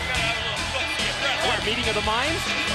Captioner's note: crowd chatter